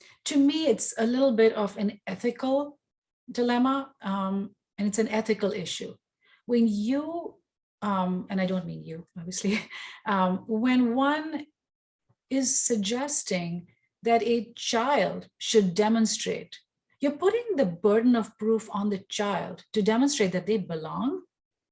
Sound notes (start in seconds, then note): 9.8 chuckles